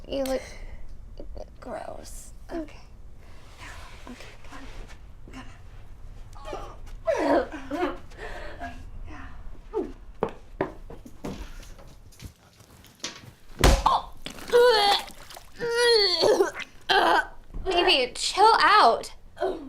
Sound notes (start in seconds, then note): 9.2 Phoebe gagging; 14.3 Phoebe vomiting